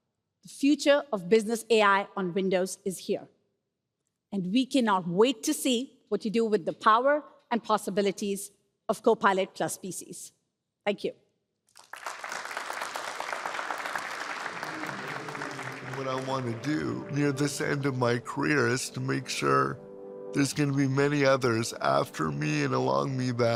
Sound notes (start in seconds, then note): 11.7 applause